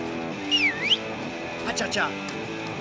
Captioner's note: whistles